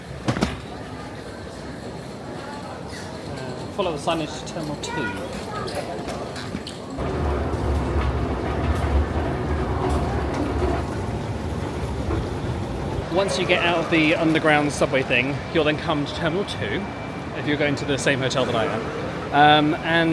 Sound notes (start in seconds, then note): 0.2 trolley clacks; 6.5 luggage clacking faintly